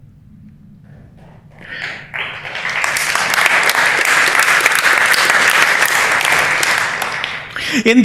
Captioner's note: applause